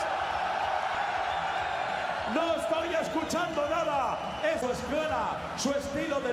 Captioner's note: cheering